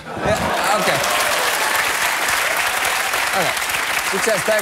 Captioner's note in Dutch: applaus